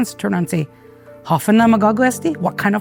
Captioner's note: in native chamoru